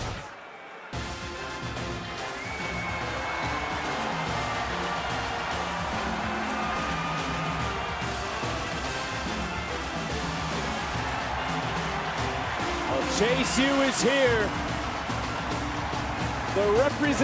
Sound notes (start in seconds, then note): 3.7 crowd cheers